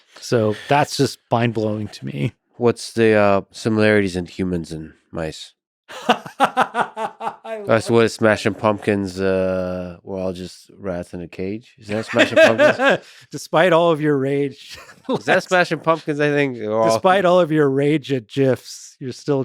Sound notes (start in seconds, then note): 5.9 laughing